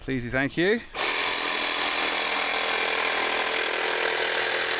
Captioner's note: drill whirring